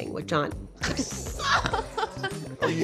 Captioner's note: laughing